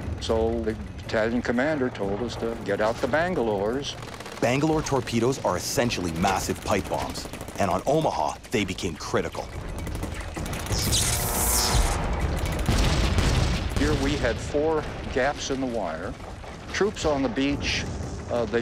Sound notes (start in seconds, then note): 10.5 electricity sizzling; 12.6 guns banging